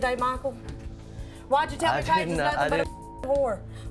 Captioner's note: beep